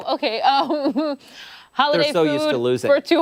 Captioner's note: laughter